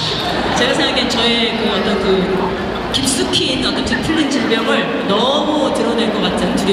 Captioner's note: audience laughing; speaking Korean